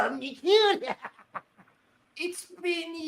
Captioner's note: laughing